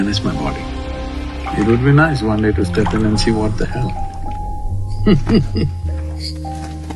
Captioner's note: laughs